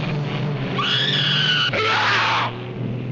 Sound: screaming; yelling

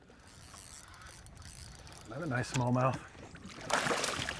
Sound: reel cranking

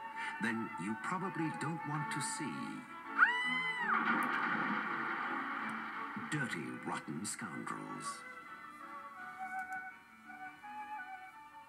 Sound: scream

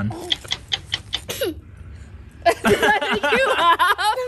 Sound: coughs; clock ticks; laugh

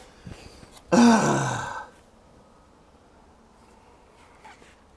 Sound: grunts

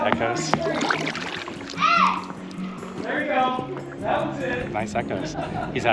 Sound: shouting and echoes

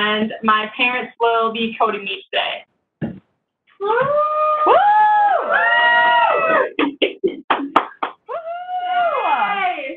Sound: cheering

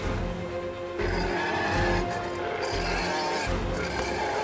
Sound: roars

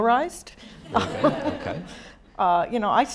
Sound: audience laughing

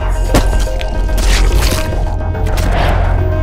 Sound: demonic voice; organ splatters; bodies drop

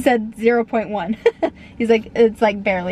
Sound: laughing

